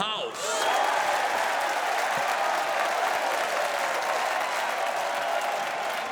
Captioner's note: audience cheering and applauding